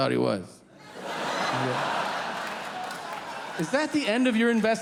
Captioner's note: audience laughing